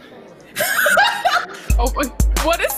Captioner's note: laughs